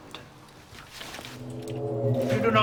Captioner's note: ominous humming